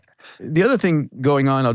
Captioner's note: laughing